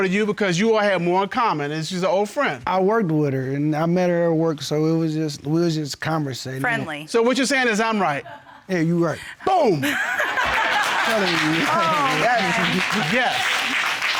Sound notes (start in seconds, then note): 9.8 laughs; 9.9 audience laughs, applauds